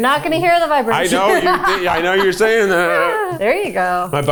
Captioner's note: chuckling